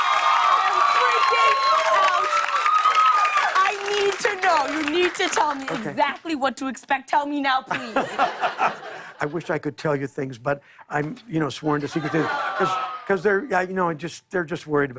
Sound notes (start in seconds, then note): 0.0 cheers and applause; 7.7 laughter; 11.8 audience "Awws"